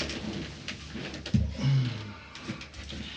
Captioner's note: detective grunts, sighs